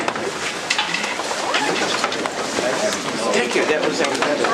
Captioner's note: murmured discussion